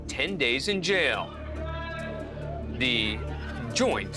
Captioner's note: indistinct chatter